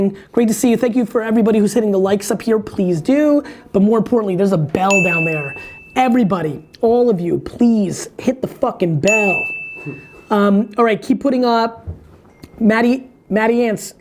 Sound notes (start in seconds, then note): 9.0 bell dings